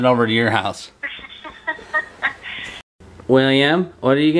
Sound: laughs

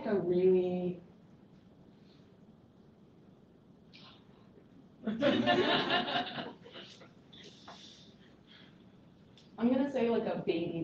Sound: laughter

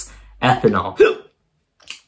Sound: hiccup

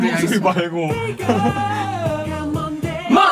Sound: laughing

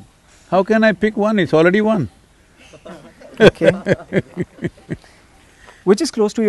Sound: laughter

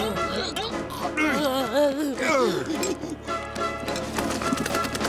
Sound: groaning

